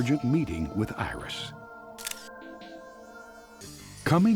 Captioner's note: camera shutter clicking